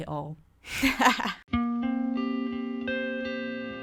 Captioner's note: laughs